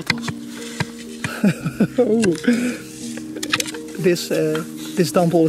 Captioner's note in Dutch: lacht